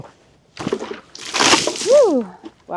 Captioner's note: liquid splashing